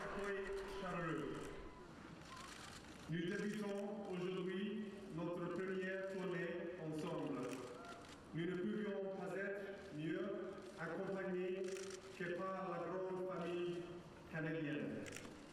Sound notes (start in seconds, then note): 0.2 Prince William speaking in French; 4.6 cameras clicking